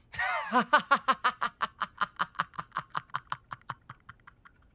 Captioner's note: laughing